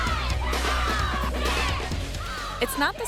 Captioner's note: excited shouts and fighting grunts; voiceover